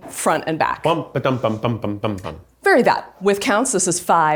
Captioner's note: hums